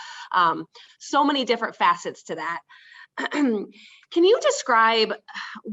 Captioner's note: clears throat